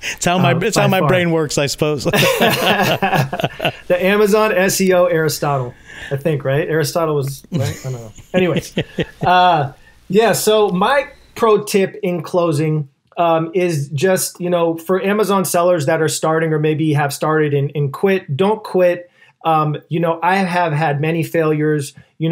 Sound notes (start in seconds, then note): 2.0 laughs